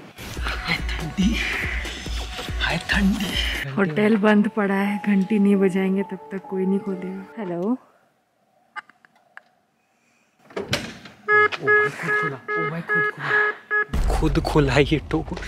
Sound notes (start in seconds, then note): 10.3 click; 11.2 beepbeepbeepbeep